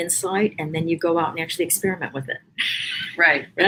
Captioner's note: laughs